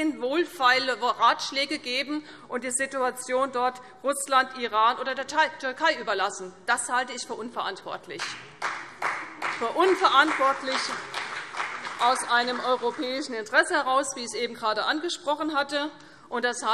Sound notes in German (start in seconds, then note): 8.3 Beifall CDU und BÜNDNIS 90/DIE GRÜNEN